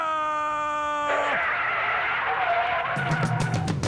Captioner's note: car tires screeching